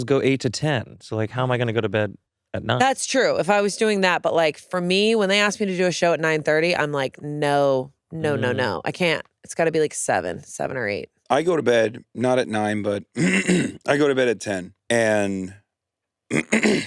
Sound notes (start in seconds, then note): 12.6 Hasan clears throat